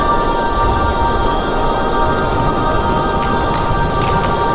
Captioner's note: volcano rumbling